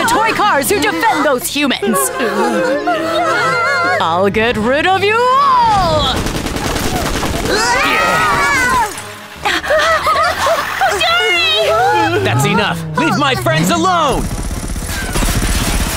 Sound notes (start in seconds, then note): 2.3 gasps, groans; 6.1 gunfire; 7.4 all scream; 9.4 all pant; 14.1 gunfire